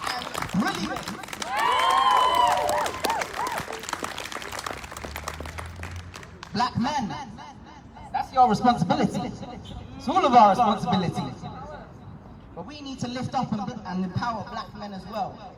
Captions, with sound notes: ...and "brilliant"! [Whooping] [Applause] Black men... ...that’s your responsibility! It’s all of our responsibility! But we need to lift up and empower Black men as well.